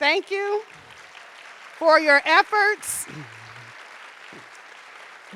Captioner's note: audience appluading